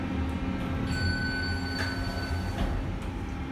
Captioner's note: elevator Chimes